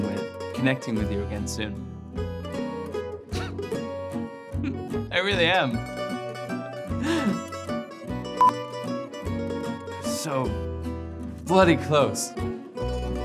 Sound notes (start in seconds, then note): 7.0 chuckles